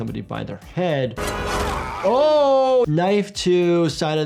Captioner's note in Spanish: personaje gritando